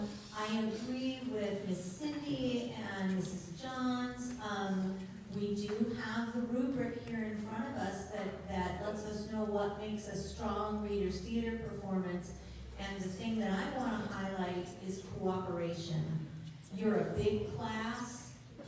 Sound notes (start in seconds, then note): none